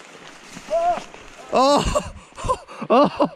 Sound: softly yelps; softly laughing

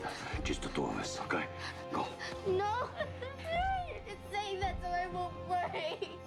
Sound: crying

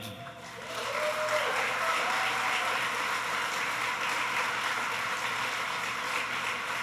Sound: applause

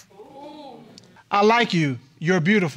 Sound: audience exclaiming

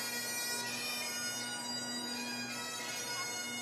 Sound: none

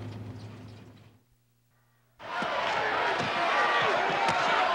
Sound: crowd cheering

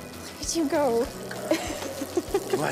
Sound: laughs

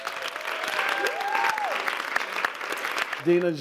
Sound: applause

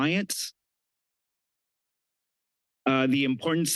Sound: pause

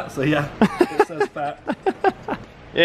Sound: laughs

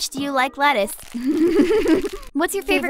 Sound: SFX of lettuce being crushed ft. laughing

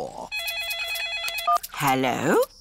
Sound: phone rings

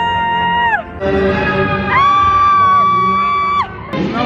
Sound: excited screams

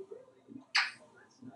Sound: smooch

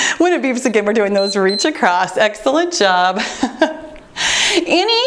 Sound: timer beeps

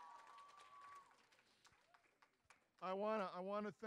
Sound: audience cheering

